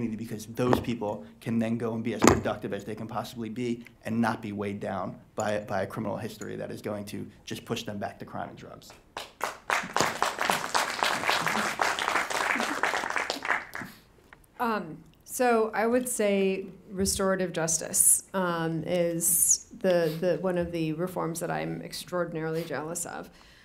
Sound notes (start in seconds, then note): 9.1 audience applauding